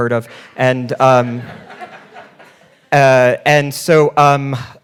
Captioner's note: audience laughing